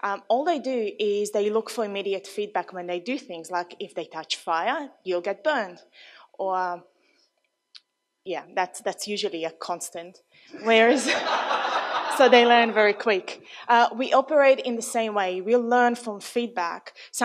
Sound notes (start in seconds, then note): 10.6 audience laughs